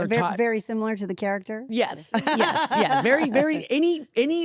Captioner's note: laughs